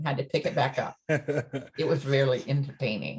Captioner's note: laughs